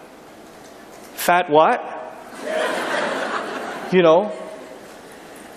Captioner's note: laughter